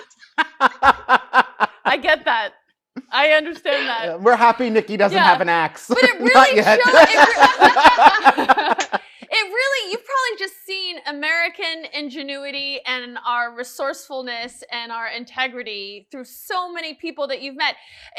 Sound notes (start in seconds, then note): 6.6 both laughing